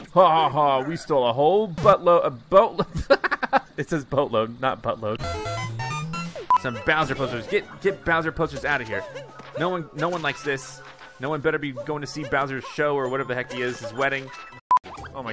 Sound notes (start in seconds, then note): 2.8 laughs; 5.3 upbeat music